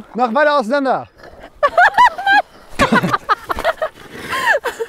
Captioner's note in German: Gelächter